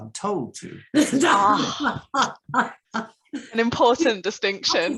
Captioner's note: laughs